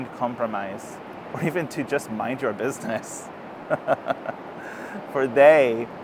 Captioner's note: laughs